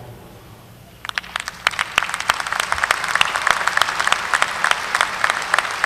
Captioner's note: audience applauding